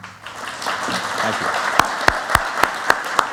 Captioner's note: applause